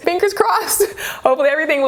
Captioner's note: chuckles